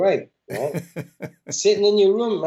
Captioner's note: laughter